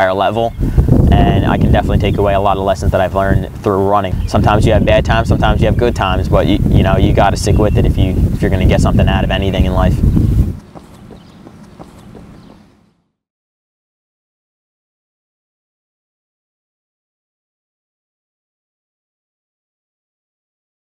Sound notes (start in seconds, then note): 8.8 feet running